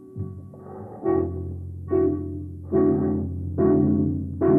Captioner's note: heavy breathing